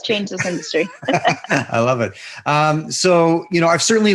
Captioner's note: both laughing